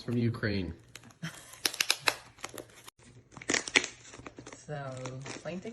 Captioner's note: laughs